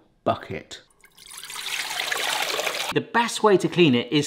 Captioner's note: water sloshing